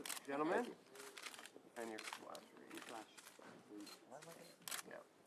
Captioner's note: camera clicks